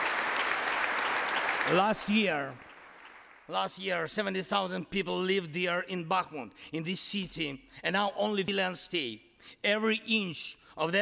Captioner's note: applause